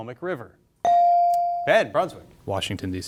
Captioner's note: bell sounding